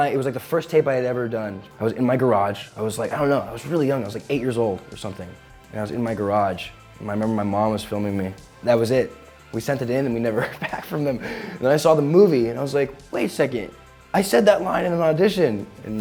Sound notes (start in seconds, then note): 10.3 chuckling